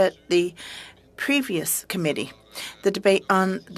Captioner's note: speaking french